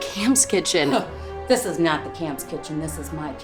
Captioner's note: scoffs